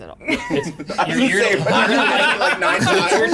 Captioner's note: players laughing